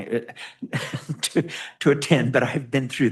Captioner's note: laughs